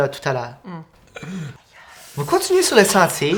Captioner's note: groans of pain